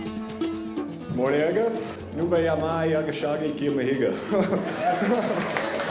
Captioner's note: speaking in native tongue